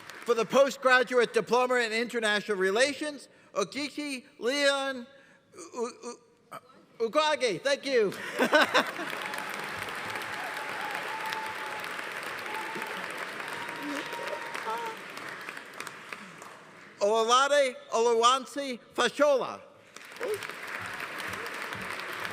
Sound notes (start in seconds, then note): 7.3 laughs; 8.2 audience applauding; 8.8 audience cheering; 19.9 audience applauding